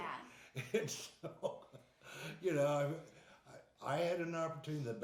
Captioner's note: laughing